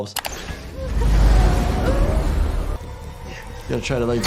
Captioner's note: machine whirring